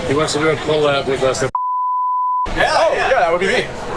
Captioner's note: beep